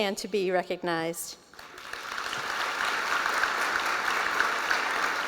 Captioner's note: applause